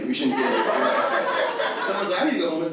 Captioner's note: audience laughs